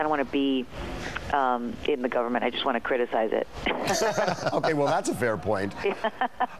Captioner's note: laughter